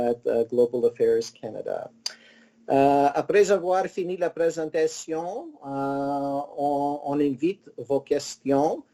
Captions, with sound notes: at Global Affairs Canada. (speaking in foreign language)